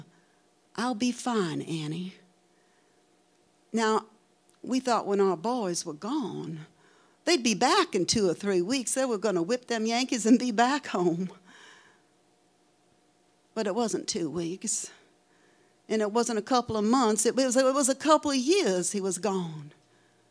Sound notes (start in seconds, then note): none